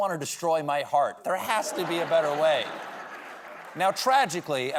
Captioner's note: laughter